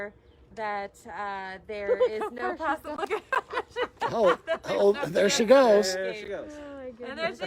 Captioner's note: laughter